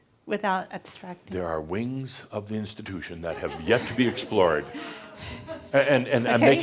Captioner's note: some chuckles